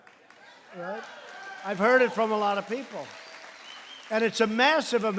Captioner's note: applause